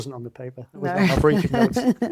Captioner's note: laughs